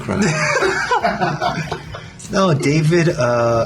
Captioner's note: laughter